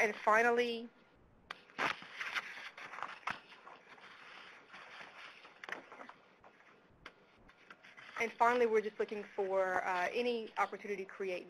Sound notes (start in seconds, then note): 2.3 pause